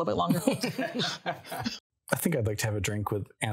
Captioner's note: group laughing